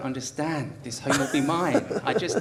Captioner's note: laughs